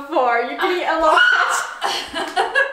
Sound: laughing; screams

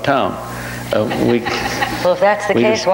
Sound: audience laughs

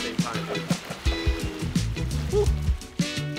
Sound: laughing; light music continues

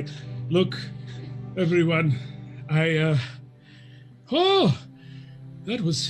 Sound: groans

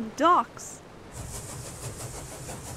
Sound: chuffing

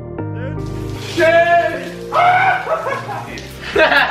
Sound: inspirational music; screaming; laughs

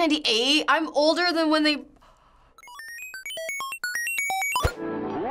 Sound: beeping; voice-over

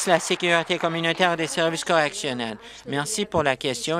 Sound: applause

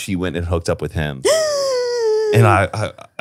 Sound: gasps

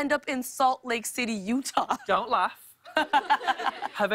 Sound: laughter

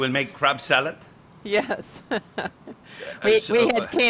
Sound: chuckles

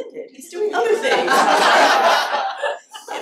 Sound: laughter

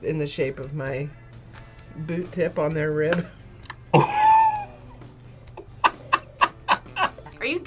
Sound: laughs

